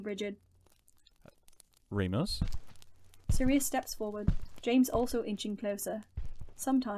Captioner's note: footsteps start